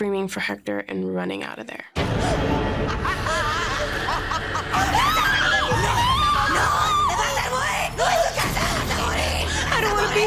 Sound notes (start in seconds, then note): 2.1 woman cackling; 4.7 screams; 8.1 speaking spanish